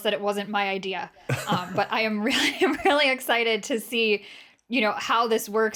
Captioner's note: laughter